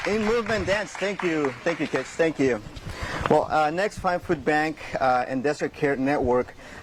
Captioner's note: cheering and applause